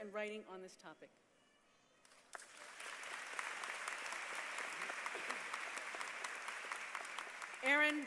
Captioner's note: applause